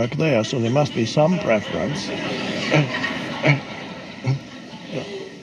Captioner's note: audience laughs